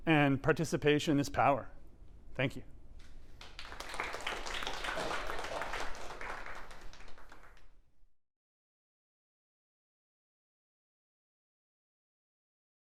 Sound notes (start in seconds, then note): 3.3 applause